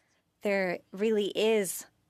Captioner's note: speaking French